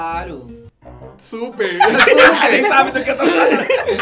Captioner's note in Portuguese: risos